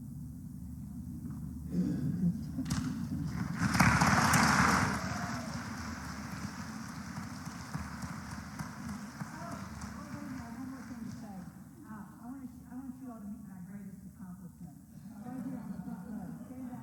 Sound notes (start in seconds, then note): 3.4 applause